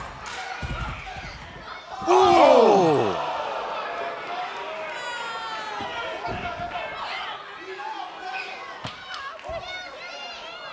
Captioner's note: crowd chatter